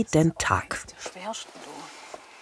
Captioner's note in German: Sie murmelt